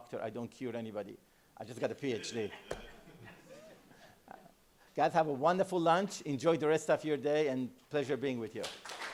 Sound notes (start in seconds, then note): 2.2 laughter; 8.6 applause